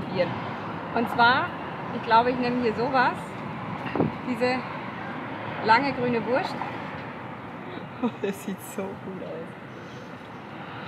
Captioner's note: laughs